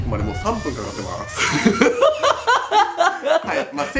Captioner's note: laughs psychopathically